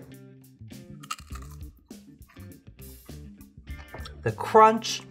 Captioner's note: crunching